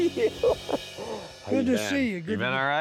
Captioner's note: Mike laughing